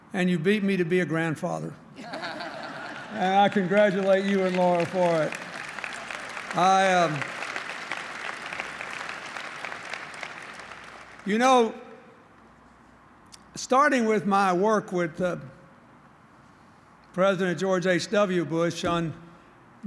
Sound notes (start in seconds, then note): 2.1 laughter, applause; 5.7 applause